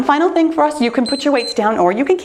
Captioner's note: timer beeps